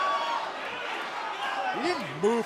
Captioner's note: crowd cheering